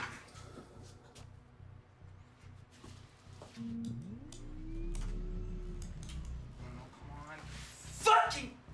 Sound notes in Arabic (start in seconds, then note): 0.2 موسيقى محيطة متوترة; 3.6 همهمة الآلات